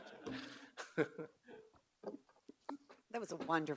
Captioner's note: all laugh